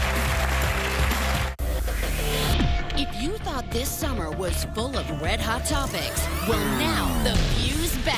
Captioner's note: cheers and applause